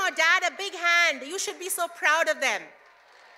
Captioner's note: cheers and applause